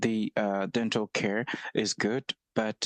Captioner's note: speaking French